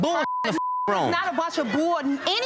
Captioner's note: beep